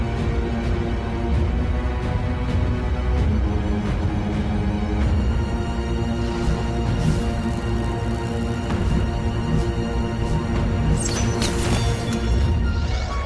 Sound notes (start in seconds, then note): 2.1 thrilling orchestral music; 6.1 energy buzzing; 11.0 arrow whooshing